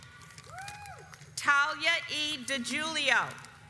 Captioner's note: audience applauds